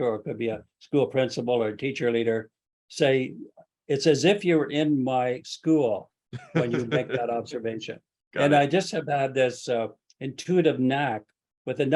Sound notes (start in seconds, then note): 6.3 laughs